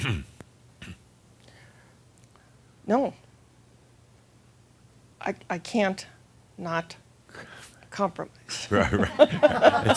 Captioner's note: she makes a face and chuckles